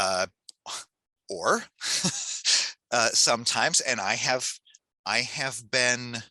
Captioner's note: laughs